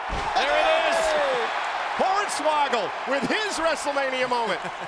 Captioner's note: applause